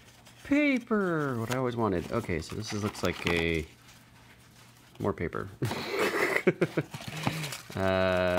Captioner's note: laughs